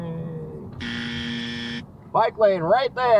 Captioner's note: buzzer